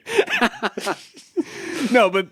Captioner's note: chuckling